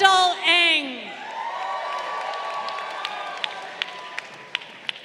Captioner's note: crowd cheering